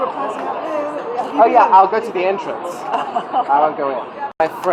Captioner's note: laughs